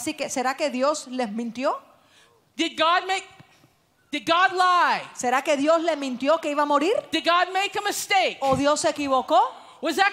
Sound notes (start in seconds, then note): 2.0 Spanish